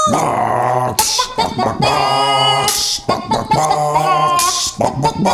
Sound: chicken sounds resembling techno music breakdown

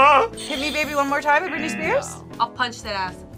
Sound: buzzer rings; buzzer

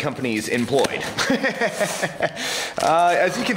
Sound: laughing

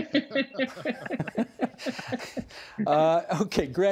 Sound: laughter

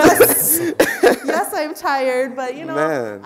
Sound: laughing

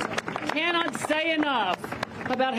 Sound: applause

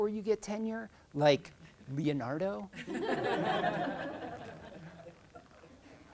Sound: crowd laughing

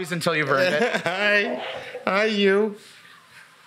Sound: laughs

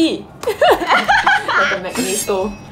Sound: laughs

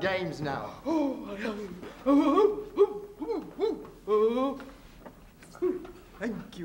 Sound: Mock Turtle groaning and grunting

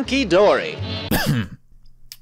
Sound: coughs

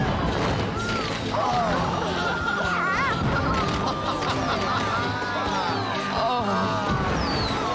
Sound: crowd Oohs & Ahs

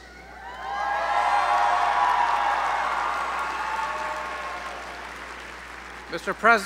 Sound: applause

